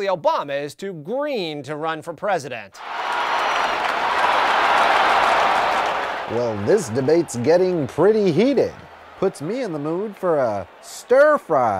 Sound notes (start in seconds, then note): 2.8 crowd clamoring